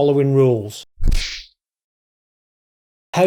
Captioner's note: kung Fu Sound